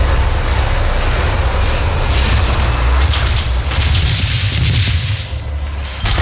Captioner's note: game audio